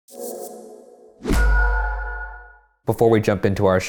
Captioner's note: air whooshing